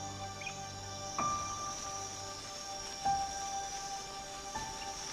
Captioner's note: insects chirping